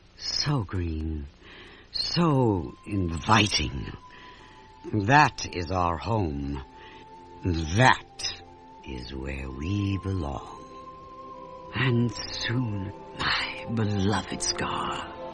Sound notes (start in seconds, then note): none